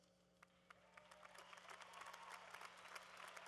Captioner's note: applause